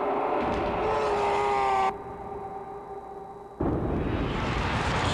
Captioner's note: screaming